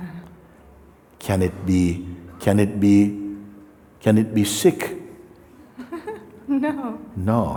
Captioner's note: laughs